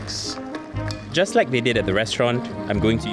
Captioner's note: voiceover